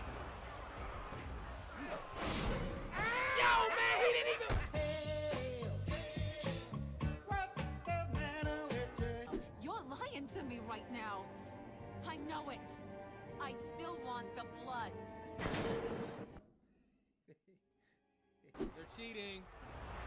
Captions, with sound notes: (twanging and screaming) (cheerful music) - You're lyin' to me right now! I know it! I still want the blood. (bang) - They're cheating.